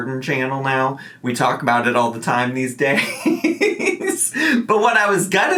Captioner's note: laughs